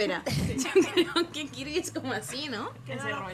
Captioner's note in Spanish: risas